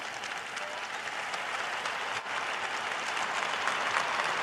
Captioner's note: cheers and applause